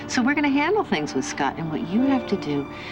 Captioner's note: none